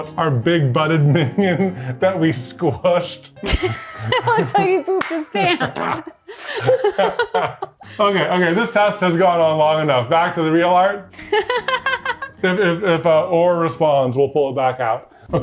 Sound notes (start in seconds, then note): 3.4 laughs; 5.8 both laughing; 11.2 laughing